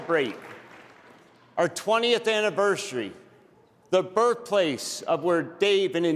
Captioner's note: applause